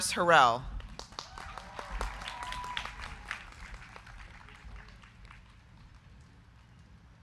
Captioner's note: crowd clapping; crowd cheering